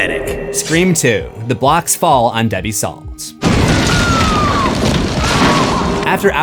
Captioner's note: screams